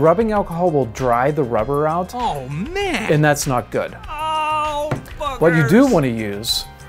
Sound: silly voice oh man; silly voice ohhh boogers

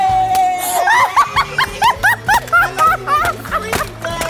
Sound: laughing

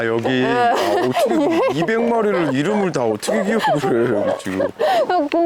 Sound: laughing

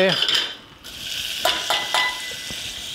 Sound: onions sizzle; cup clangs

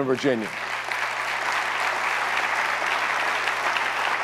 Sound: audience applauds

